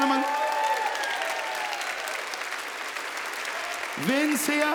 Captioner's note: audience applauding